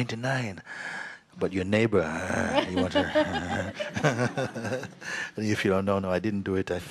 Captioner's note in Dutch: gelach